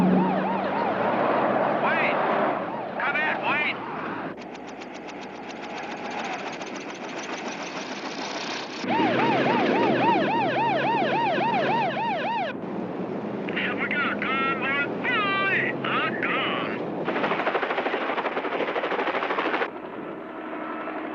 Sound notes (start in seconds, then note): 0.0 siren; 8.8 siren; 17.0 helicopter